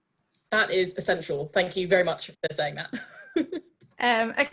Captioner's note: laughs